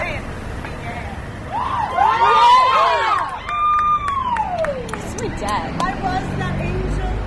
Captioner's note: audience cheers